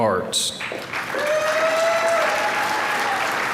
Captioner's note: applause